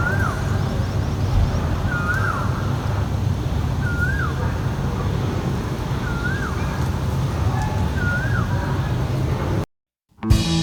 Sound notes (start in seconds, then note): 0.0 insanely loud bird chirping sounds